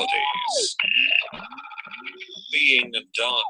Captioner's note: electronic noises